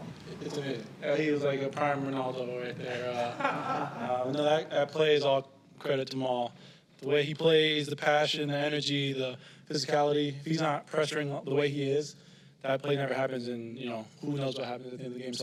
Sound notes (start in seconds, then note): 2.8 people laughing